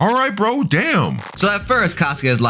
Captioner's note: TV static running